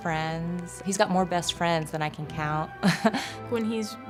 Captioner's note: laughing